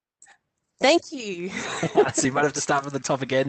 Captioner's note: laughs